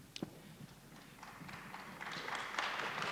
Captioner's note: applause